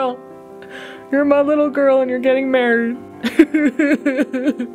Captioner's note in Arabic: بكاء